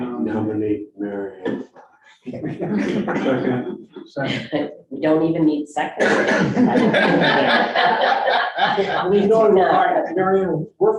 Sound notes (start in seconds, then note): 2.3 board members chuckling; 6.0 board members laughing